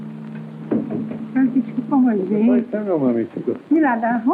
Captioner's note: speaking portuguese